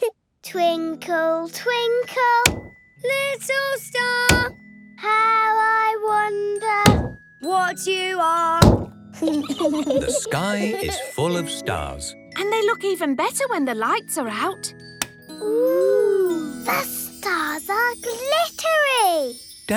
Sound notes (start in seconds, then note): 9.2 giggling